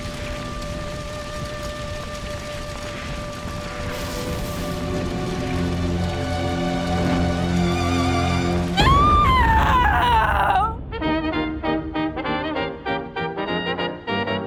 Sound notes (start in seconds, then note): 8.0 eerie music; 8.7 screams; 10.8 playful classical music